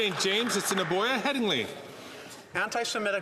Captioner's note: some Applause